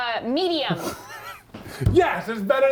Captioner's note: laughs